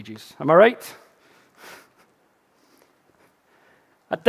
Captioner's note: chuckling